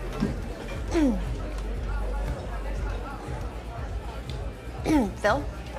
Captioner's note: clears throat; clears throat